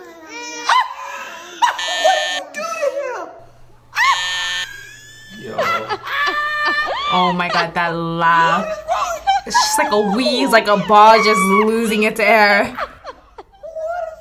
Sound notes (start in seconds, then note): 1.6 buzzer rings; 4.8 man laughs